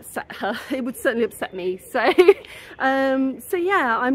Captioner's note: laughing